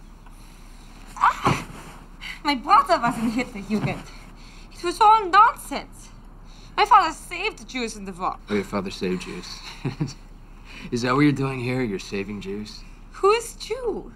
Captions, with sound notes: (groans) My brother was in Hitler Youth, it was all nonsense! My father saved the Jews in the war. - Oh, your father saved Jews. (chuckles) Is that what you're doing here, you're saving Jews? - Who is Jew?